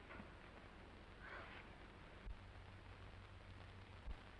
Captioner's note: Esther sighs